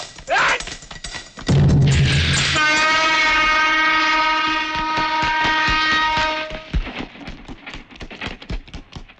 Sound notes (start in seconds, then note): 2.4 train horn blares